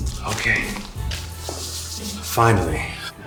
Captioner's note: sighs